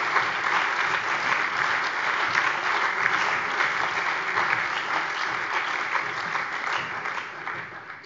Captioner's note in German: Beifall bei der CDU